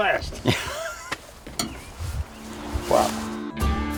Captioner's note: laughs; upbeat country music